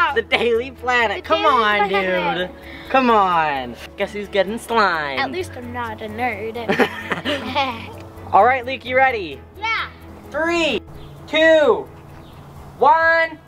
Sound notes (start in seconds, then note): 6.6 laughing